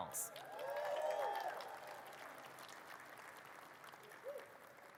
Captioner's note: audience cheers and claps